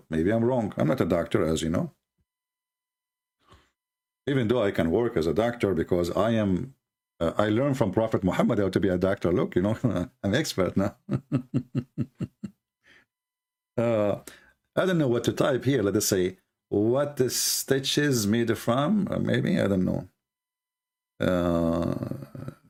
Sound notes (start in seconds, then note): 11.0 Ketawa